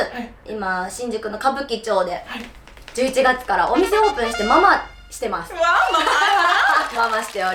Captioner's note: laughs